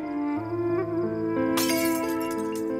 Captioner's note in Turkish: Kırılma Sesi